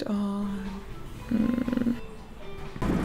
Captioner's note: purr